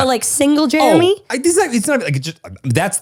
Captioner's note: stutters